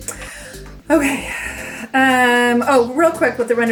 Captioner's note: sighs